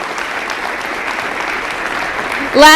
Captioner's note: applause